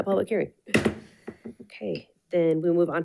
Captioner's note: gavel bangs